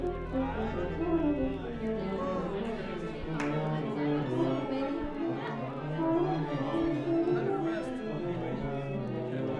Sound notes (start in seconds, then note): 0.2 instruments tuning; 3.5 indistinct chatter